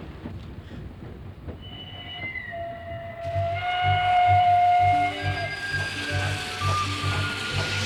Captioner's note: breaks squeak and train whistles